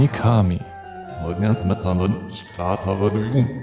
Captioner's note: speaks the language of hell